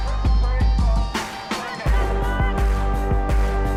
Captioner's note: shouting